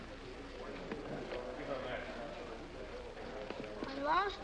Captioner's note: crowd chattering